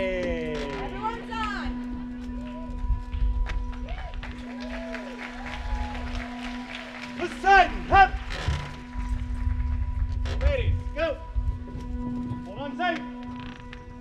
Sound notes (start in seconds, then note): 2.2 audience claps and cheers; 9.3 frame creaks